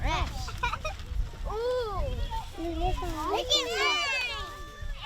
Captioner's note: children murmur